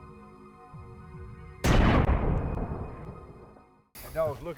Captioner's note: gun bangs